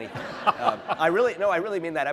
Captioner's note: laughter